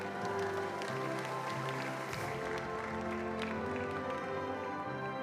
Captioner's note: attendees applauding